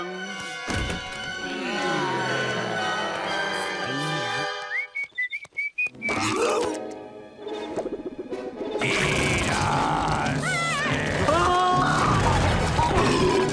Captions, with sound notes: Eat us! [whistling] Eat us! [screaming]